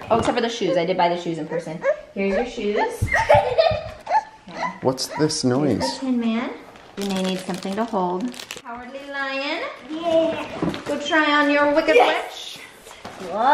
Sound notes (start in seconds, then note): 2.9 giggles; 4.0 whines